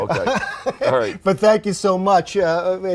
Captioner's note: laughs